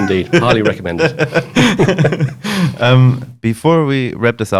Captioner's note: laughs